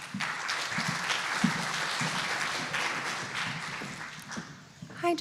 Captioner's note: applause